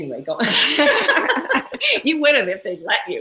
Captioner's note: laugh